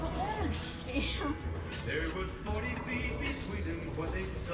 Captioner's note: laughing